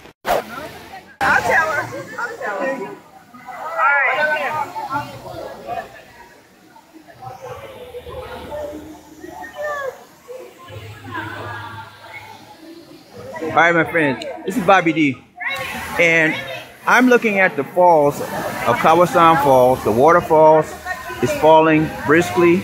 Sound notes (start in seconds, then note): 3.9 people mumbling